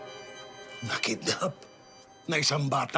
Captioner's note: scoffs